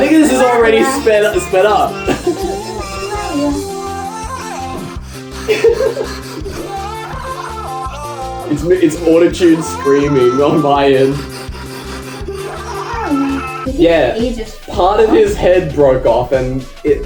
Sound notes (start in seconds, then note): 2.7 auto-tuned screams and fast breathing in tune, laughs